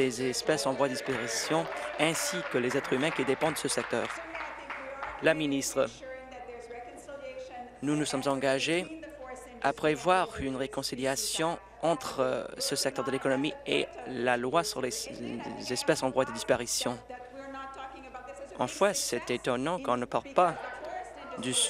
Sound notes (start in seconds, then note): 4.1 applause